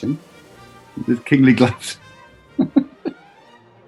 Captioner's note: chuckling